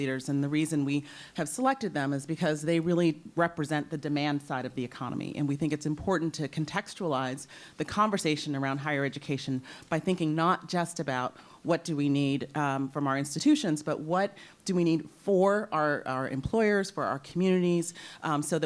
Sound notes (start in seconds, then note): none